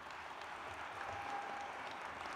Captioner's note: applause